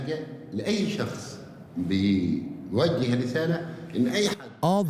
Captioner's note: in Arabic